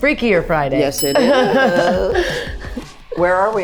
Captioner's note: bell dings